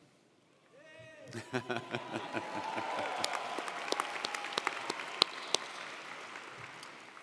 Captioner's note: audience applauding